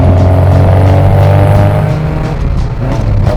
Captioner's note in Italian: motore alto di giri